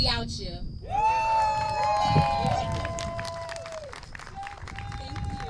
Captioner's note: cheers